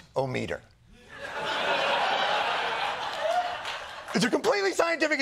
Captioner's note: laughter